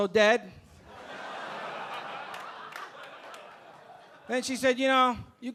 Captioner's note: audience laughing